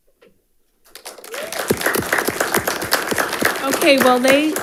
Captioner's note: audience applauding